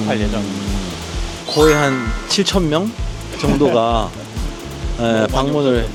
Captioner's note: sparkling sound effect